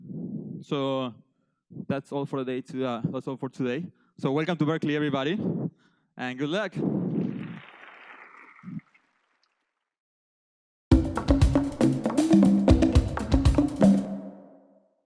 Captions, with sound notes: So that's all for today. That's all for today. So welcome to Berkeley everybody. And good luck. (students applaud) (drum music)